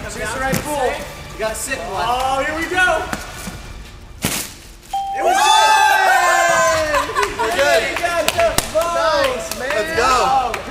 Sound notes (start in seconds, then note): 4.9 ding; 5.0 all cheering